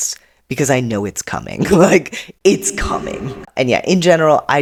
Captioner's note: echoing